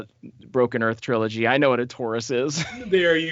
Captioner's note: laughs